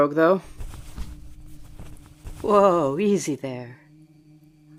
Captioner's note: rustling